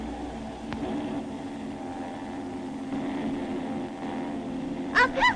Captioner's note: The sound of Bomber aircraft